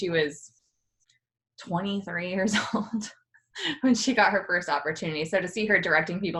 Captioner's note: chuckles